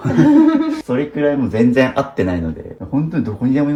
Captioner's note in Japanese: 笑い